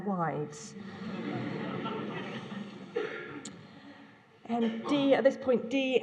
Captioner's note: laughter